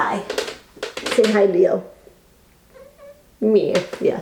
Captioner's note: cat whines